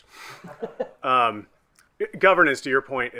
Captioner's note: group laughing